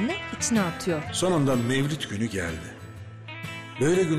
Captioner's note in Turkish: Ahmet dış ses